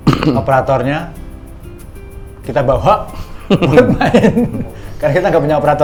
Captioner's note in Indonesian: tertawa